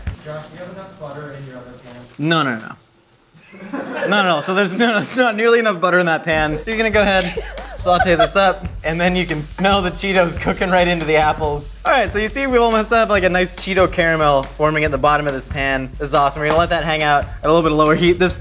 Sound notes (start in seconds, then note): 3.4 audience laughs; 6.8 audience laughing